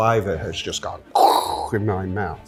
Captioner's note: makes eruption noise with mouth